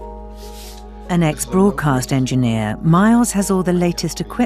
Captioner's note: voiceover